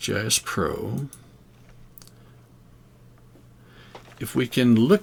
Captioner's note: silence